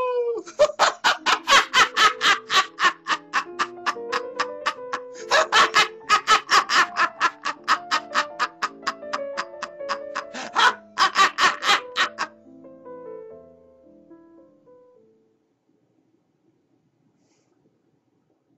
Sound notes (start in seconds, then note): 1.0 eerie music; 1.0 man laughing; 13.3 eerie music